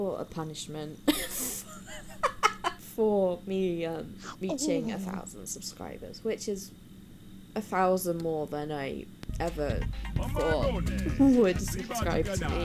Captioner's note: cackles